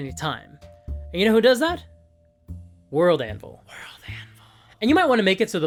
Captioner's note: Whispers: WorldAnvil…